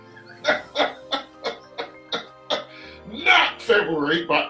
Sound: laughing

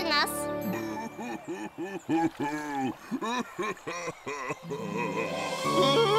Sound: crying

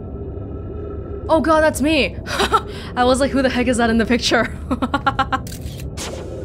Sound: laughs

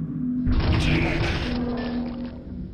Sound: tremor

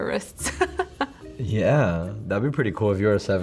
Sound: laughs

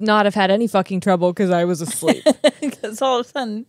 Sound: laughs

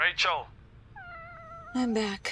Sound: cat's meow

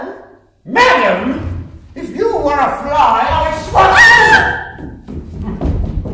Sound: she squeals

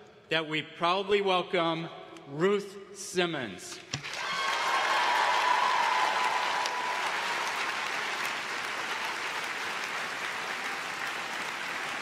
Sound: applause

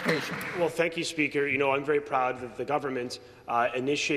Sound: some Applause

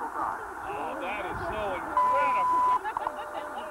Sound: laughter

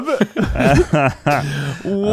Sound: laughing

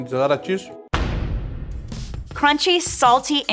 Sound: dramatic thump

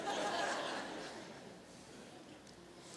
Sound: laughter

